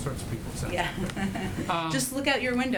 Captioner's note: laughter